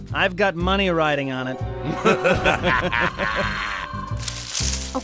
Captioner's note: laughter